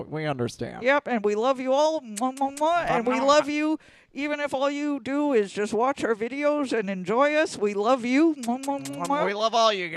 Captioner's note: air kisses